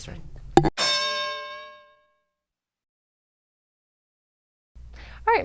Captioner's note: bell